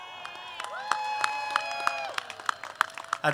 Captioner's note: applause